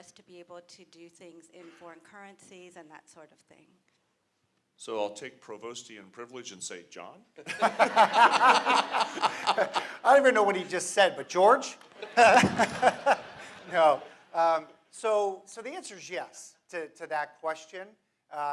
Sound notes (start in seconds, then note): 7.4 laughter; 11.9 laughter